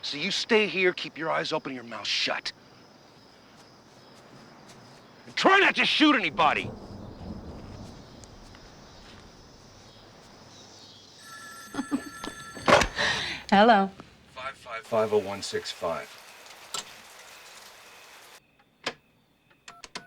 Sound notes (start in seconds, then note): 11.2 telephone ringing; 11.7 laughing